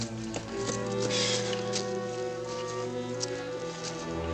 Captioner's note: breathing heavily